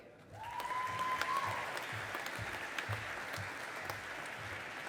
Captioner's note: audience applauding